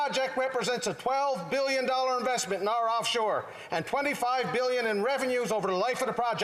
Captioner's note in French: voix de l'interprète